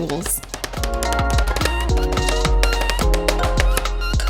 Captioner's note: mallet pounds